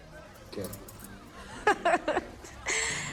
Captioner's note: Lebona laughs